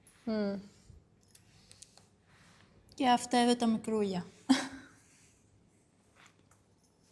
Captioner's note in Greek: γέλια